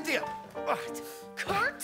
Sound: groans

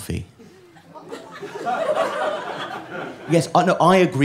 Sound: nervous laughter

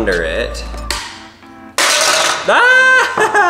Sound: plastic snaps; screams

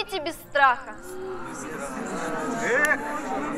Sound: approving sound of the crows

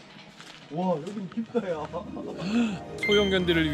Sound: gasp

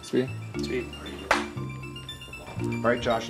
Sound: claps

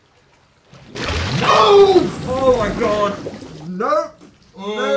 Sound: screams

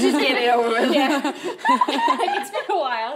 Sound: everyone laughs

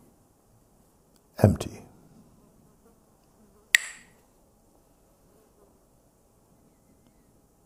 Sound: clacks the sticks

